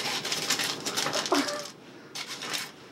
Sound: laughs

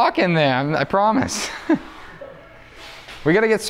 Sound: chuckles

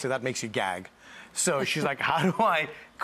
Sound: laughs softly

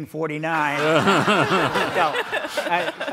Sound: all laugh

